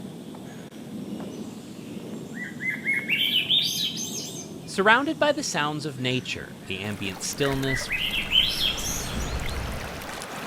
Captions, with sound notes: (birds sing) -Surrounded by the sounds of nature, the ambient stillness (birds sing)